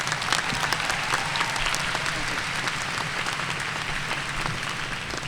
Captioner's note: audience cheering and applauding